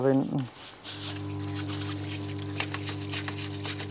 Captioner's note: whirring, chafing